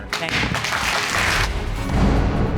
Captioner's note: audience applauding